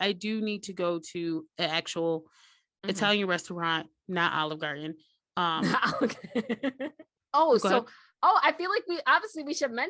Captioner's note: giggles